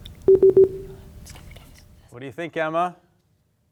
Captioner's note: beep